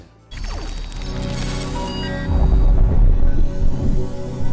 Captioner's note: electronic beeping